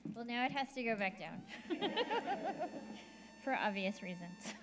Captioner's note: laughs